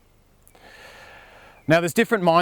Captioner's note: deep breath